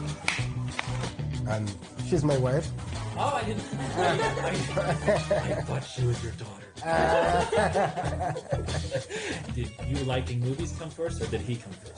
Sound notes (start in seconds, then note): 0.2 claps; 4.7 laughs